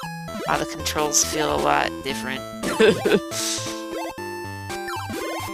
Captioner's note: laughs